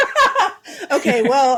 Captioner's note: laughing